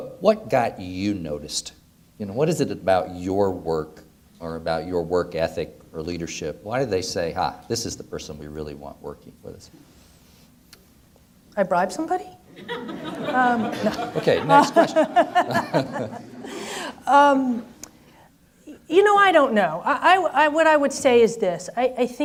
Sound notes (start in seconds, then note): 12.5 audience laughs; 15.9 laughing